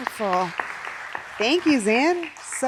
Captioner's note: audience applauding